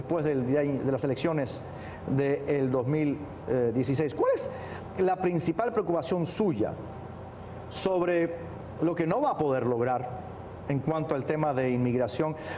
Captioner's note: speaking spanish